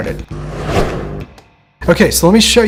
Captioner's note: whoosh